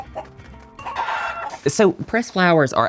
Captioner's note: chickens squawk